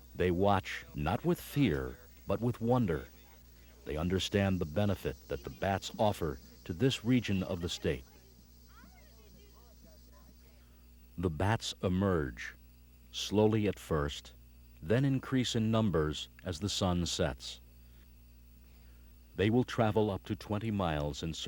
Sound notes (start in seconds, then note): 8.8 visitors chattering